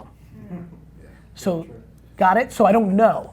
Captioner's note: group chattering in agreement